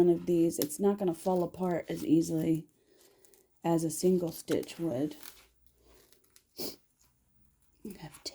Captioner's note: sniff